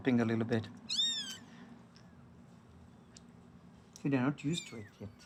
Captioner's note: kitten mews